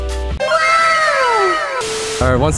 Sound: television static

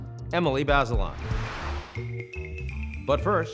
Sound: air whooshes

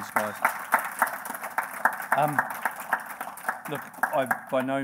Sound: audience applauding

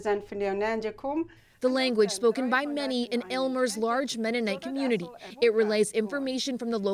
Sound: speaking foreign language

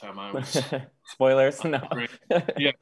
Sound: laughing

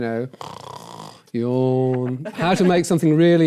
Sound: snore

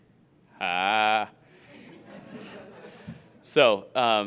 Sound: audience laughing

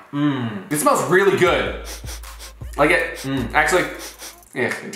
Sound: sniffing

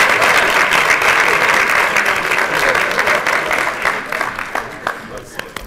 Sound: applause

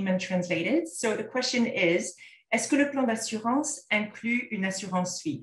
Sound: content in French

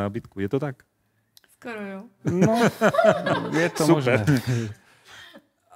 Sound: laughs

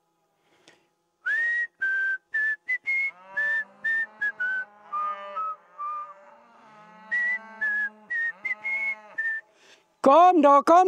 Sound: whistles

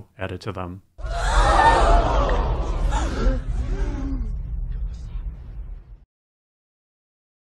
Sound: crowd gasping

